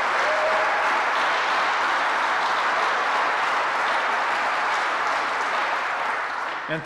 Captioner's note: applause